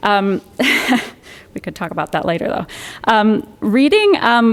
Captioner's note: chuckles